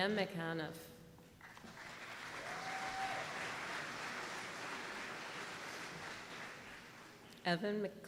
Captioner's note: applause